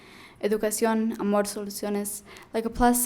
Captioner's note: speaking in foreign language